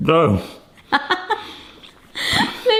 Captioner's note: laughs